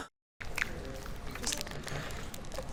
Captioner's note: gasps; shortening squelching